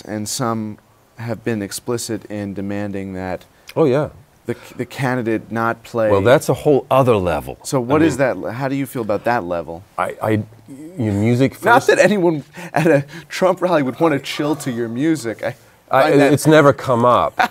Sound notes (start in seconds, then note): 13.7 laughs